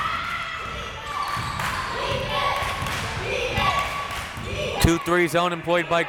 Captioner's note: crowd members chanting